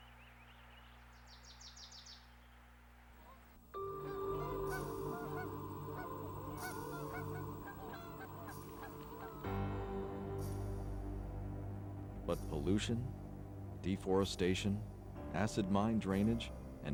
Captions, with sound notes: (dramatic music) (geese calling) But pollution, deforestation, acid mine drainage,